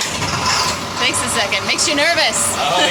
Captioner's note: engine cranking